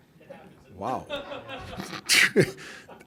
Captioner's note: reporters laughing; Frank laughing; reporters laughing